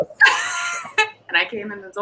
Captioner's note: laughs